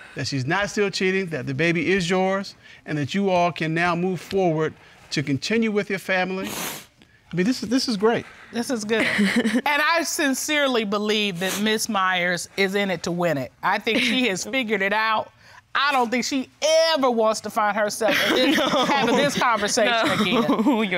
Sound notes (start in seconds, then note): 6.4 sniffling; 9.0 chuckles